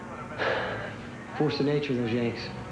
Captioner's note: sighs